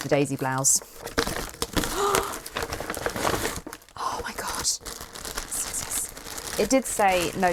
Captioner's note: rustling